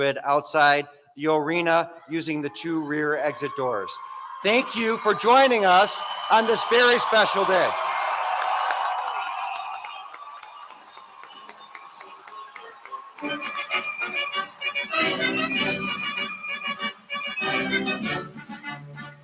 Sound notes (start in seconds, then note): 8.5 applause